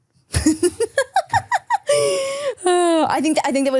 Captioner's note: laughing